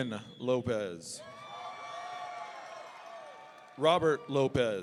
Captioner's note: audience cheering